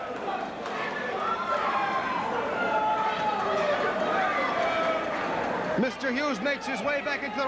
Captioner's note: crowd chatter